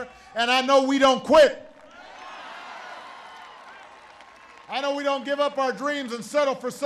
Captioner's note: applause